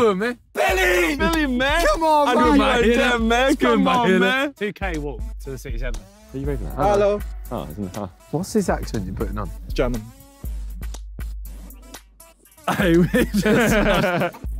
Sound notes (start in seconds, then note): 1.7 indistinct chattering; 11.0 upbeat music; 14.4 laughing